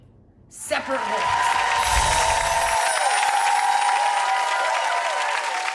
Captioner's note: clicks; cheering and clapping; bells chiming; audience cheering and clapping